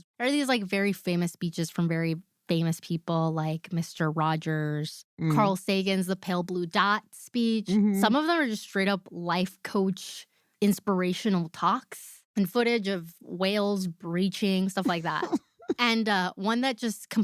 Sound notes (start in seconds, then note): 14.8 laughs